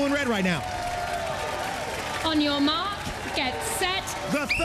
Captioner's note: whistle blows